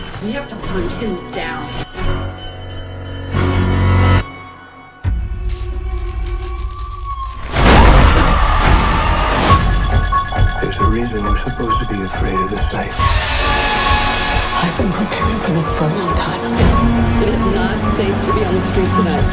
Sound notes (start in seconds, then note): 5.4 teeth clatter; 7.5 screaming